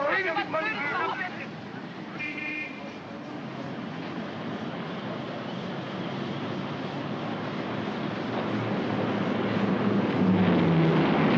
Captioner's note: yelling & commotion; city street sounds; aircraft roars overhead